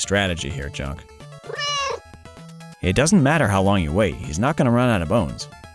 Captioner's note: meow